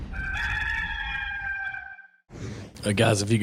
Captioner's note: rooster crow